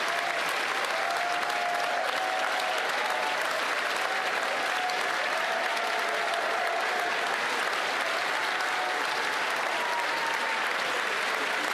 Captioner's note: cheering & Applause